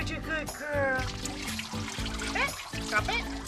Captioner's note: water running